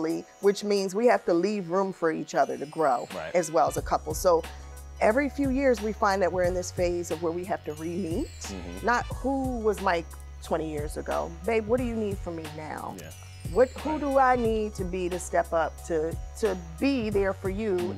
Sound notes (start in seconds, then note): none